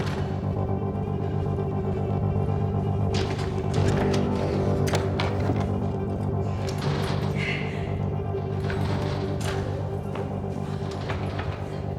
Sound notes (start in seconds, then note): 0.3 slips, tense music; 2.5 sound of doors